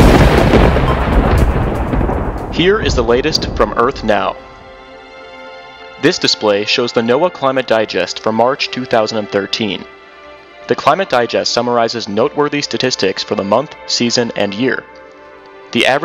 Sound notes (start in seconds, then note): 2.5 thunder/Music